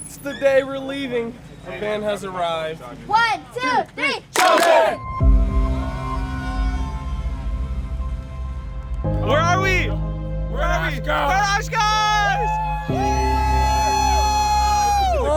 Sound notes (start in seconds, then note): 4.3 group cheering; 11.3 group cheering